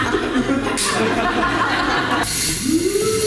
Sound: audience Laughing; the wheel clicks as it spins, the audience: "ooh!"

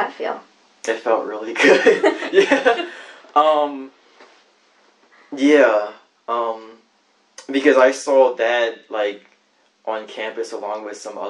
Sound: laughs

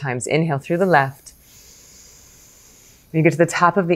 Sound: inhales softly

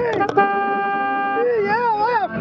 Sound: bicycle: toot toot

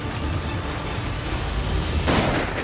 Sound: gunshot

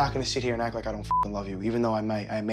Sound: beep

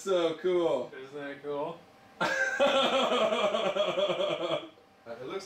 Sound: laughs

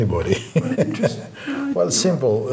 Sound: laughs

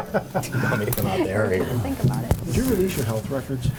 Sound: board members chatter

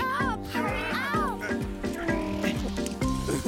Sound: grunting; sobbing

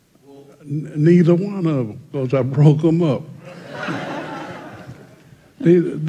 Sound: laughter

